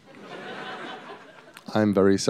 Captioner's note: laughter